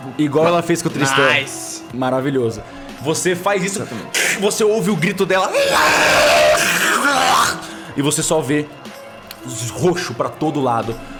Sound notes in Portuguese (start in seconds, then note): 5.4 Argh!